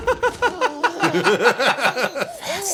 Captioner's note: chuckles